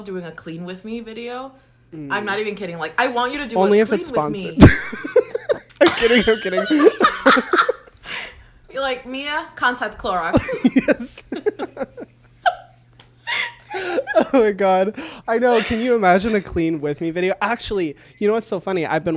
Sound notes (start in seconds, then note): 4.5 both laugh; 10.3 both laugh